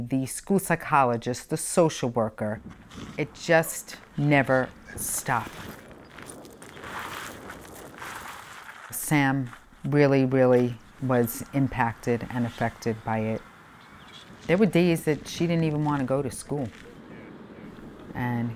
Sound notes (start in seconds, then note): 6.9 gravel crunching